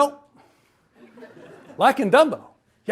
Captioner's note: audience laughs